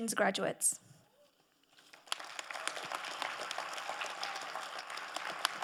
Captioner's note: crowd applauding